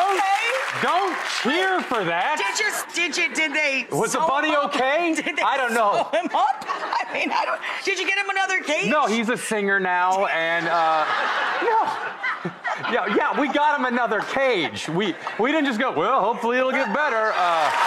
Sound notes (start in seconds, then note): 10.4 audience laughing